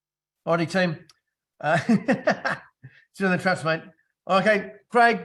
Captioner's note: laughs